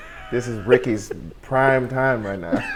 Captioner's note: laughs; comedians laugh